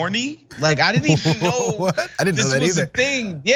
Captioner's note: laugh